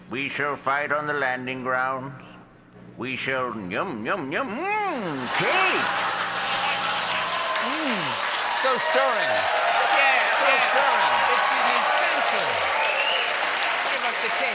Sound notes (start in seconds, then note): 8.0 cheers and applause